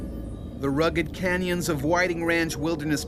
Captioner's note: voiceover